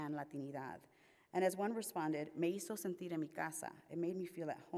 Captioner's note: speaks Spanish